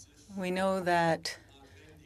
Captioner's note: speaking French